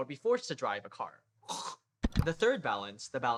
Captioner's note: click; retches